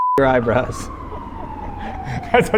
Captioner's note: both laugh